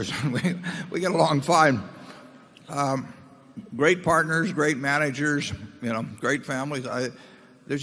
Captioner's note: laughs